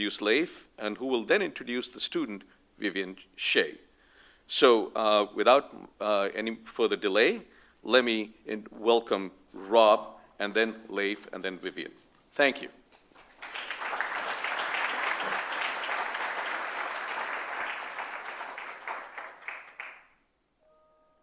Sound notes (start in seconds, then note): 13.0 applause